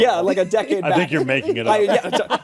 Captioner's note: laughter